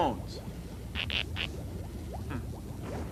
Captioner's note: squeaking